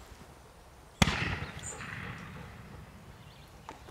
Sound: gunshot

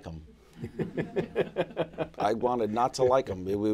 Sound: laughter

